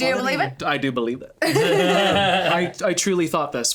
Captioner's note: both laughing